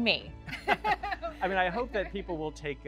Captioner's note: laughing